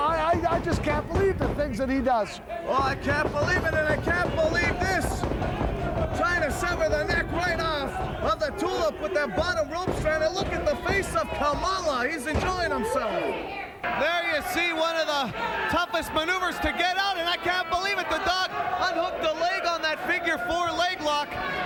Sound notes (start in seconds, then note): 5.5 wrestler kicks legs